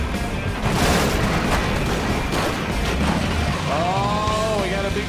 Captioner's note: buses crashing